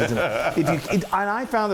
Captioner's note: laugh